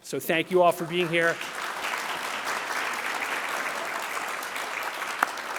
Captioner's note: audience clapping